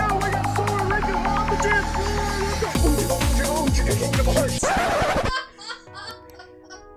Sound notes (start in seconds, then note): 4.6 laughter in the background; 4.6 record screech